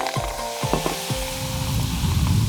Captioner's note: sizzling